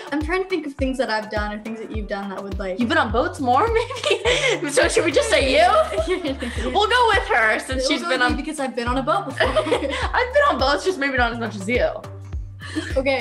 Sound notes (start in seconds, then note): 7.3 murmurs